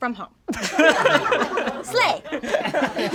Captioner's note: all laugh